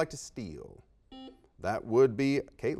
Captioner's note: beeps